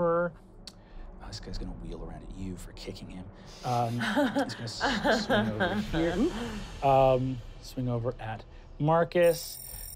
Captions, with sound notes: This guy's gonna wheel around at you for kicking him. (laughing) He's gonna swing over here. Swing over at Markus.